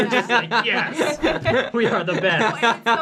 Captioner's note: laughing